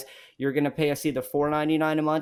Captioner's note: none